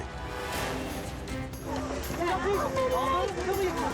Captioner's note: rescuers screaming indistinctly